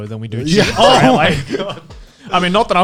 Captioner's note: guys laughing